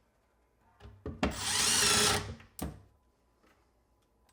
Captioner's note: tool whirring